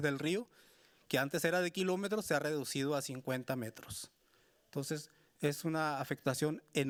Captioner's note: speaking Spanish continues